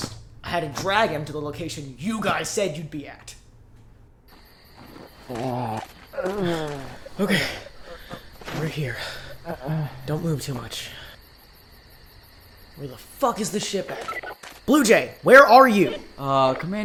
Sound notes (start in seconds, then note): 6.2 pant